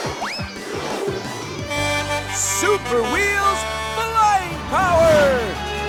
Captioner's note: honking